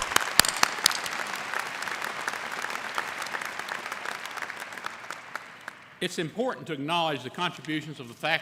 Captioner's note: applause